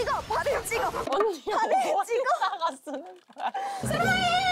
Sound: frustrated

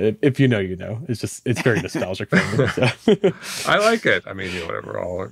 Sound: hosts laughing

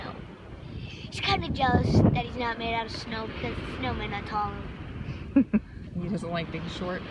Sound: laughing

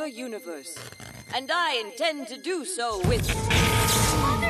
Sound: crackle and boom

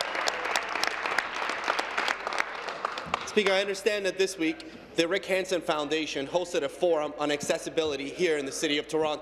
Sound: applause

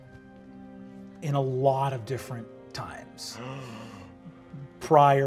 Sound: gasping

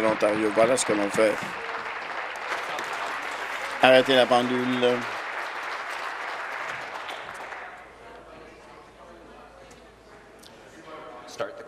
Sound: applause

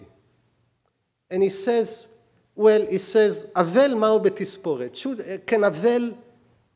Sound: speaking hebrew

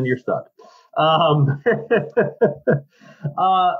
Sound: laughs

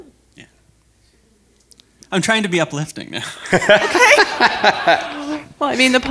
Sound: chuckle

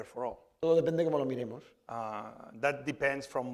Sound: speaking spanish

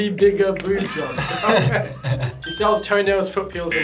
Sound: both laugh

